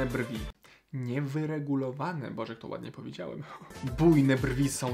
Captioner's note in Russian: Польское произношение